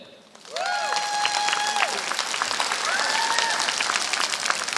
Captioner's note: applause